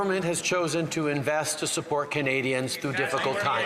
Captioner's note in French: voix de l'interprète